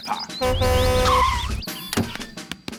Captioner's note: honks and brakes